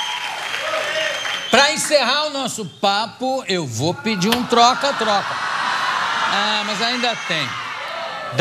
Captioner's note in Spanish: público protesta